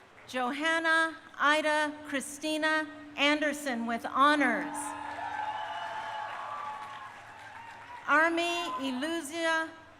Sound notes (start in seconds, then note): 0.0 crowd applauding; 4.5 crowd cheering